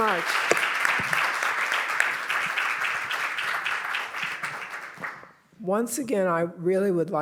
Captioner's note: applause